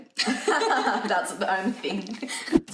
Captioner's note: both laughing